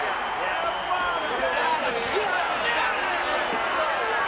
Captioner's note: shouting